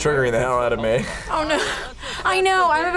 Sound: laughs

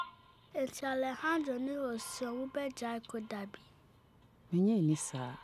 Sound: in Twi

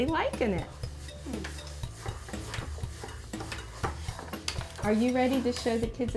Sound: none

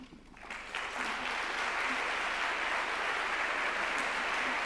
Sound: audience clapping

